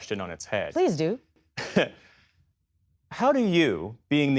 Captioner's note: laughter